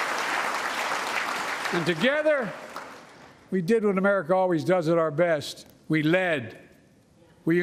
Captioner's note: applause